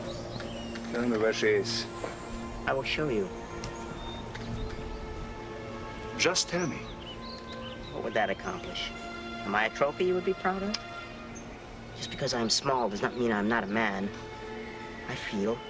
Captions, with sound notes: - Tell me where she is. (somber orchestral music) - I will show you. (birds chirping) - Just tell me. - What would that accomplish? Am I a trophy you would be proud of? Just because I'm small does not mean I'm not a man. I feel, I hope, I live.